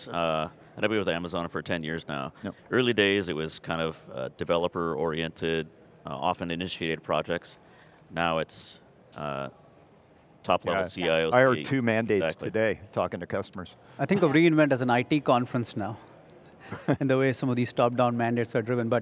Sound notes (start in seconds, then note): 16.6 chuckles